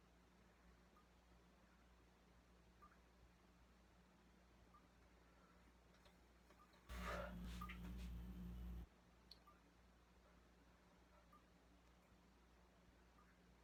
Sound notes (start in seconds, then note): 7.0 sigh